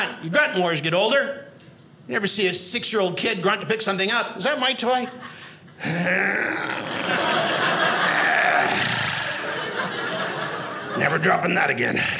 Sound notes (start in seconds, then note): 5.8 grunting; 6.7 audience laughing